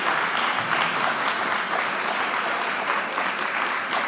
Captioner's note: applause